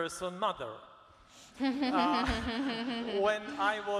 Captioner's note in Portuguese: todos rindo